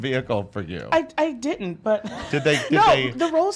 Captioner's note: laughs